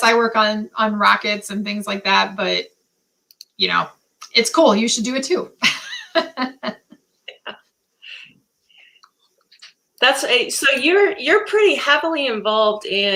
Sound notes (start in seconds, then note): 5.6 laughter